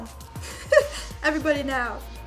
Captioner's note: laughing